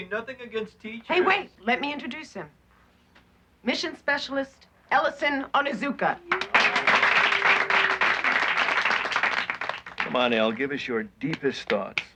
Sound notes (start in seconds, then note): 6.2 applauding